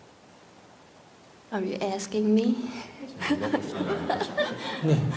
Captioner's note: questioner Laughter